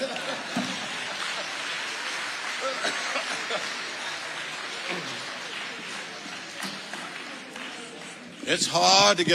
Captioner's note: audience applauding